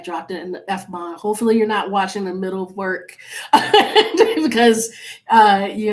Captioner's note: laughs